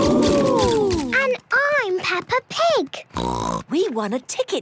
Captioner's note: snort